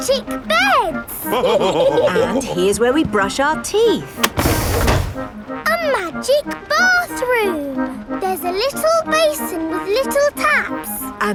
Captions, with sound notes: Magic beds! (ALL LAUGHING) And here's where we brush our teeth! A magic bathroom! There's a little basin with little taps!